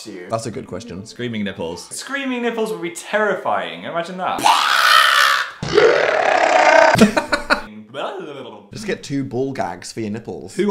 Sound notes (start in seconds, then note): 4.4 screams; 4.4 screams in slow motion; 6.6 laughs; 7.9 babbling